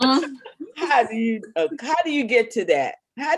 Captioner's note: laughing